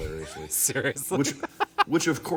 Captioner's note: laughing